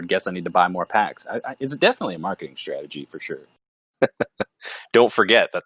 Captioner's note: laughs